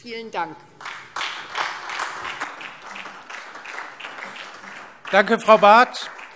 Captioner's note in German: Beifall SPD und vereinzelt DIE LINKE